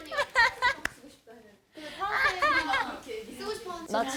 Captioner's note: giggles